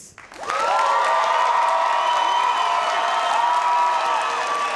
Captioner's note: audience cheers